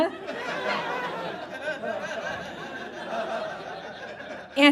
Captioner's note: audience laughs